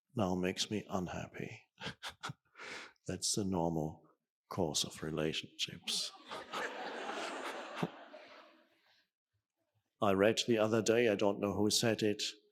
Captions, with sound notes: now makes me unhappy. That's the normal course of relationships. (audience laughing) I read the other day, I don't know who said it.